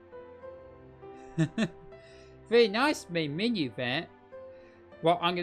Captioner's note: chuckles